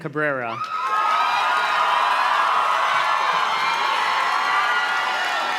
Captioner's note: audience cheers and claps